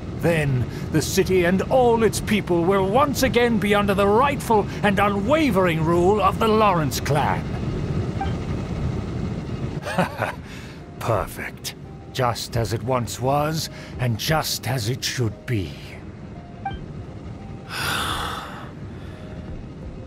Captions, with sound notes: Then, the city and all its people will once again be under the rightful and unwavering rule of the Lawrence Clan! Haha, perfect! Just as it once was, and just as it should be! *sigh*.